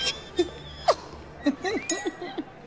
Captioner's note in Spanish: Exclamaciones; Risas